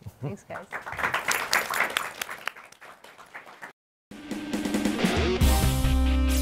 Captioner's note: applause